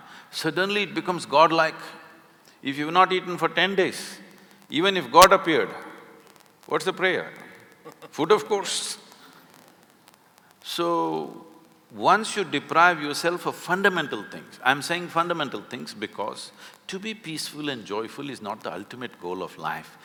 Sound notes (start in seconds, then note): 7.9 Karan Johar laughs